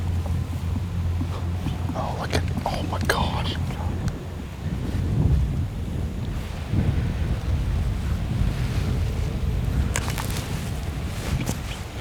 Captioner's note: whispering